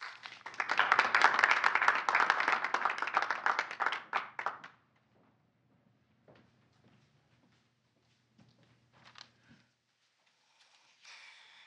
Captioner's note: applause